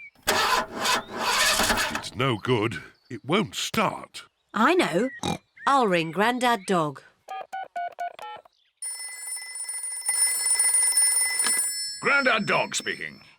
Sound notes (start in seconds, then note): 0.0 engine sputters; 5.0 snorts; 7.3 buttons beeping; 7.3 phone rings